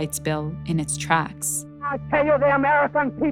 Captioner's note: soundbite of archived recording